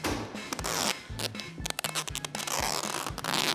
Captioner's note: tape stretches